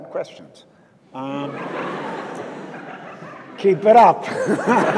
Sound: audience laughs

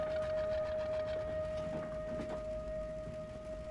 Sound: none

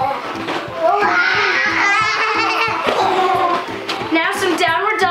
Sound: groaning and giggling

